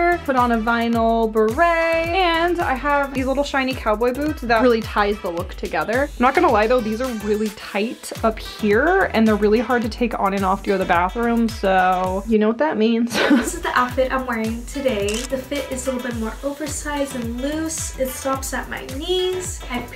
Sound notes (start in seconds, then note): 13.1 chuckles; 15.0 camera snaps